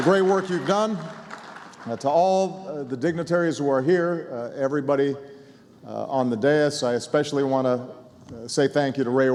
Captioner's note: applause